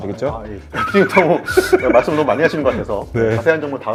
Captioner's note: panicking, Panicking